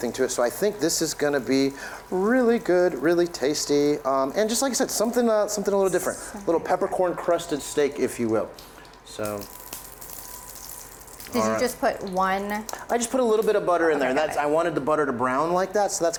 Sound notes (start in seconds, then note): 9.5 oil sizzling